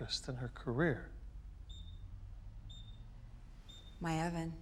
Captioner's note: beeping